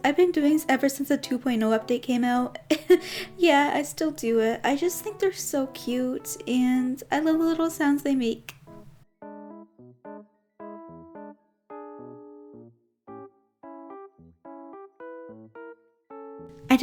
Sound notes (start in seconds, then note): 2.6 chuckles